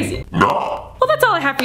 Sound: distorted sound

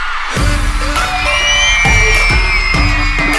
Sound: crowd screaming

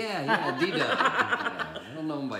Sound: laughing

